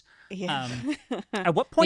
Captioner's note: chuckles